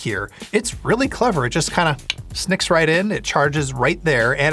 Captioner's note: fingers snap